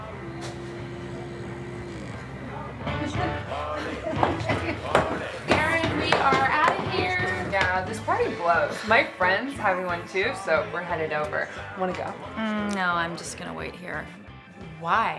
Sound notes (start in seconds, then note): 0.0 snores; 3.8 Julie giggles